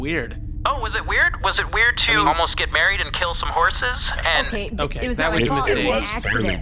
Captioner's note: sarcastic